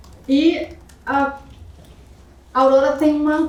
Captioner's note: speaking portuguese